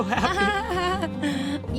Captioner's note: laughs